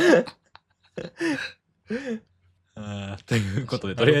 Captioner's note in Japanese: 笑い; 笑い